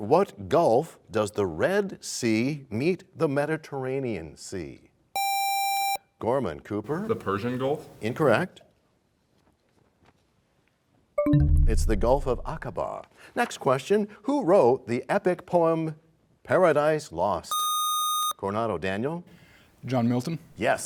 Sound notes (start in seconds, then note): 10.4 bell chimes, time expires